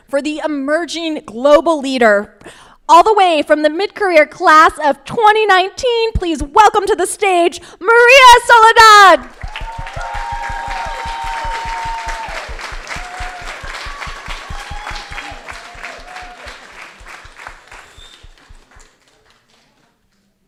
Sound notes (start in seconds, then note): 9.5 crowd applauding